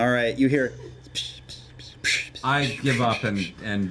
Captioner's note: splashes